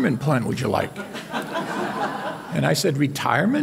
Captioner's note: audience laughing